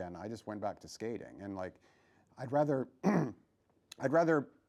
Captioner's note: clears throat